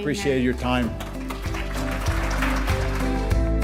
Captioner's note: applause